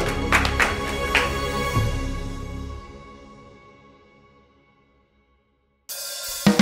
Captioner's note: clapping